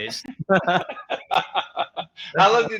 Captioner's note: laughing